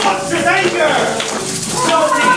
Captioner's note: audience shaking rattles